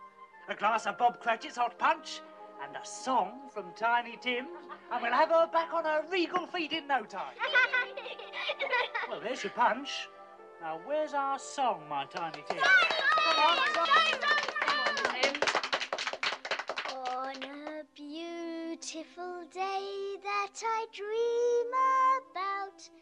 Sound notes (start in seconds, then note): 7.3 kids laugh; 16.8 singing